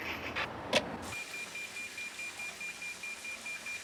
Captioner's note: beeping